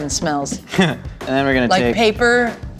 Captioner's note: laughs